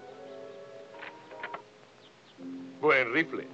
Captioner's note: gentle music; rifle clicks